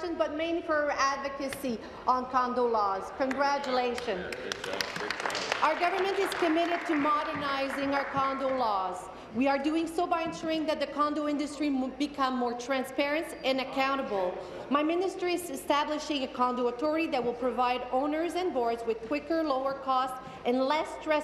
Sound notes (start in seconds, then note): 9.2 applause